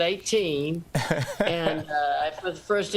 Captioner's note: laughter